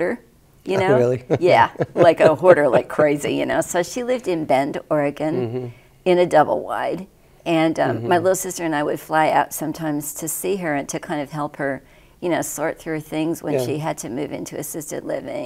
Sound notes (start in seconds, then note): 0.8 slight chuckle; 3.4 chuckles